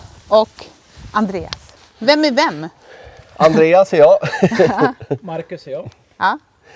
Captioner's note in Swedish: skratt